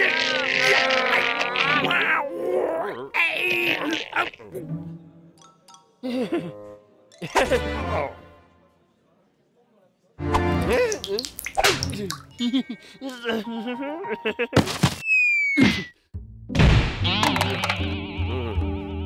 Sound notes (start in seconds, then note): 7.2 laughs nervously; 10.7 water dripping; 12.3 laughs nervously; 15.5 grunts; 16.7 door slams